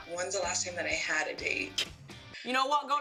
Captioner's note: laughs